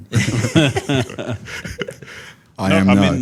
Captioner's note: participants laugh